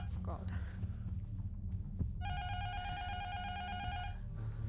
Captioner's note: intercom buzzer rings